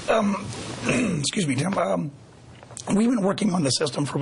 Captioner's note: clears throat